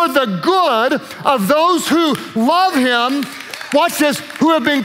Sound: worship leaders applaud

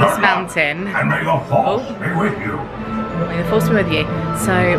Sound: animatronic Voice

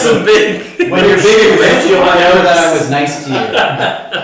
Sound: mumbling

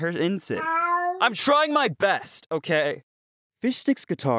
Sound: cat sounds

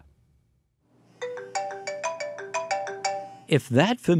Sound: cell phone rings

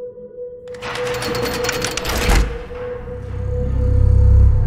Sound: tense music; shutter clattering

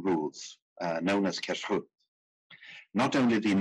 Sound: speaking in foreign language

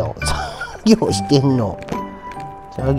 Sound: laughter

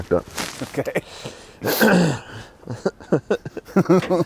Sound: both laughing

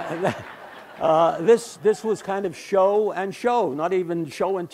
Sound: background Laughter

